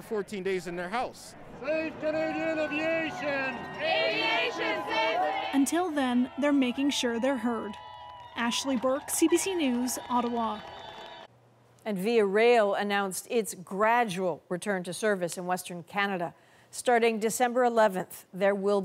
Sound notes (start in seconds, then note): 4.7 chanting